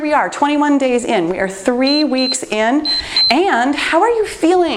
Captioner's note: timer beeps